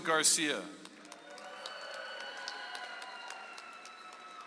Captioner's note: audience applauds